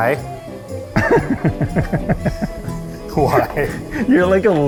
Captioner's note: laughs